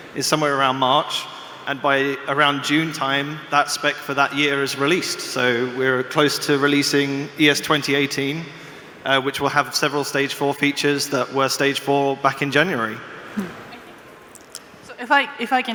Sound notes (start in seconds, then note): 7.0 sound feed distorted